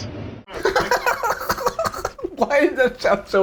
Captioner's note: chuckles